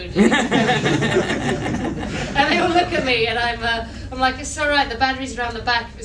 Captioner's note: laughter